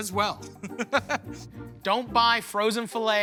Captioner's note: laughing